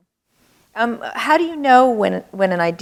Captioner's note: none